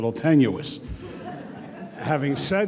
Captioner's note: audience laughs